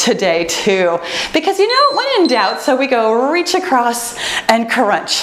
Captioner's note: timer beeps